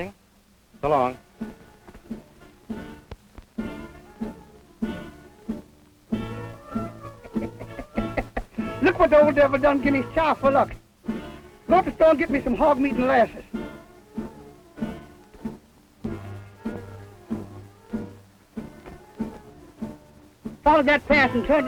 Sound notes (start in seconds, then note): 2.2 playful music; 7.0 laughs